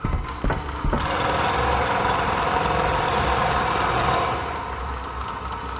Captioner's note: machines banging